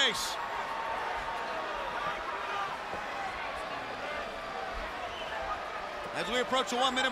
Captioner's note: crowd chatter